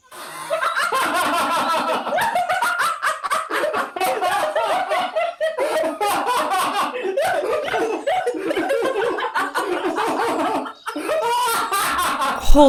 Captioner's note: laughing